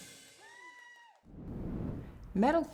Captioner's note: cheers and applause